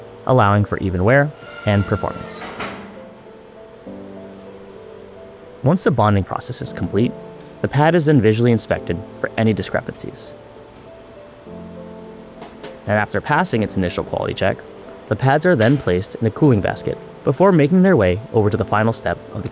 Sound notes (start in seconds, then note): 2.4 machine thudding; 3.9 gentle music